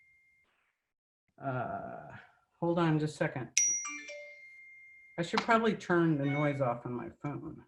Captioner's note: cellphone dings